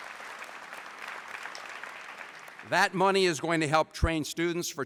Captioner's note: applause